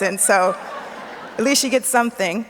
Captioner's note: audience laughs